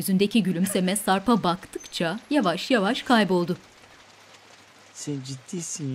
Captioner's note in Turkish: Yağmur sesi; Gülme sesi